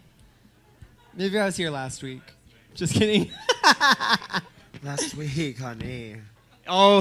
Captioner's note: she laughs